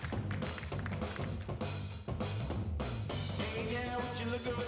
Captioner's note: applause